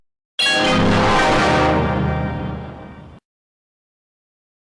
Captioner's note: Hell Windows XP Shutdown Sound